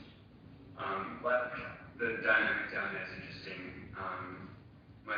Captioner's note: audio distorts